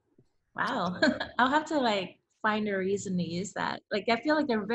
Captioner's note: laughs